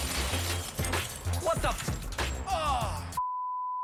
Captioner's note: glass shatters